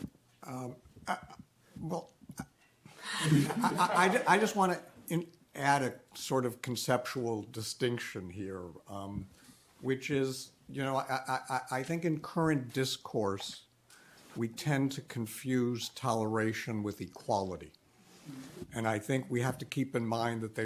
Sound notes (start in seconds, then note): 3.0 audience laughs